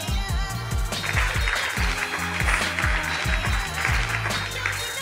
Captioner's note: slow r&b music; audience applause